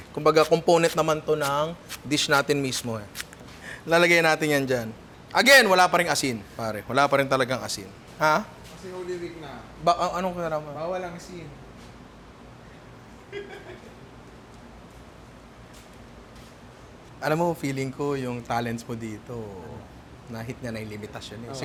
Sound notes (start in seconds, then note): 13.3 laughs